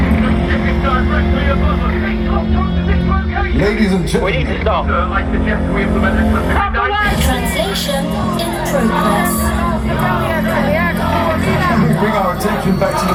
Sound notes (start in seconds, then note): 9.7 People chanting for Dalton